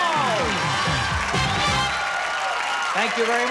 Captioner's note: cheers and applause